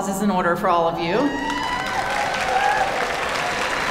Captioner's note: applause